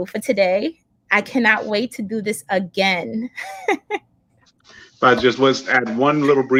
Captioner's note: laughs